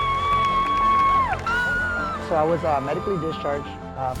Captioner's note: yelling